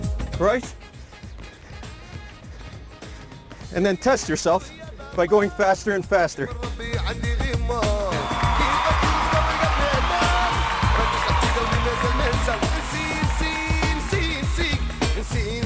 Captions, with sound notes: Right. And then test yourself by going faster and faster. (cheering)